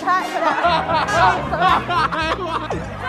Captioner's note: hahahaha